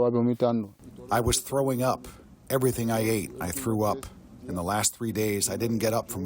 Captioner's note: through translator